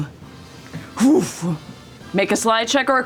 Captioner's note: whooshing